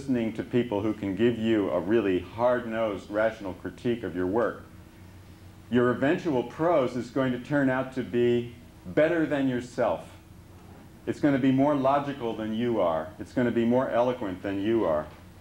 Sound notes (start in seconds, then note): none